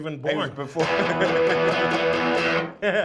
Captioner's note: laughs